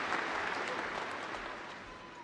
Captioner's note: applause